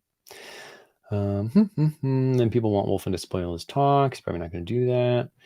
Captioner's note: hums